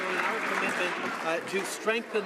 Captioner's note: applause